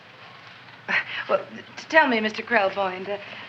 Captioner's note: chuckles